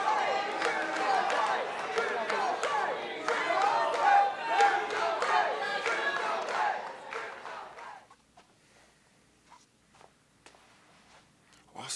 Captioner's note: fans chanting